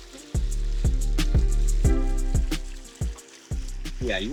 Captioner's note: splashing